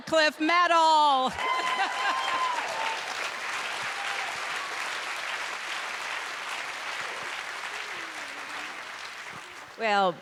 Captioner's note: applause